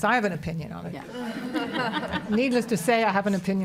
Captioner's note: audience laughs